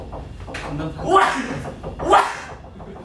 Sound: coughing

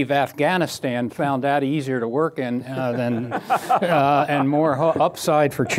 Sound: laughter

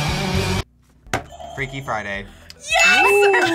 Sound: rock music; buzzer rings

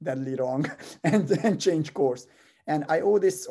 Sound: laugh

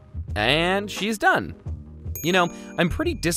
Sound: bell dings

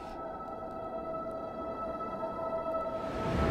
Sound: ethereal sounds

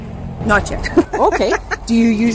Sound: laughs

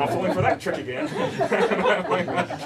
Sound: laughter

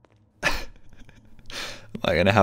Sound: laughing

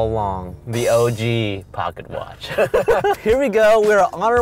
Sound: laughing

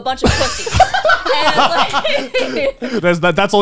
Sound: everyone laughs

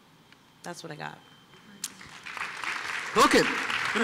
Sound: applause

